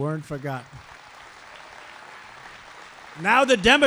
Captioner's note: applause